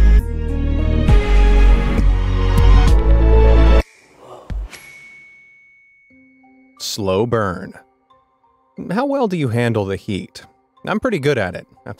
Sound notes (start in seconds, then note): 0.0 dramatic music; 4.3 toon gasping